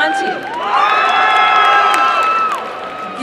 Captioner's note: applause and cheering